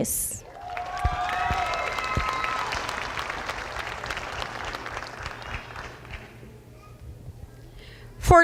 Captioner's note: applause